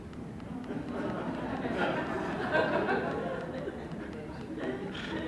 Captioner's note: laughter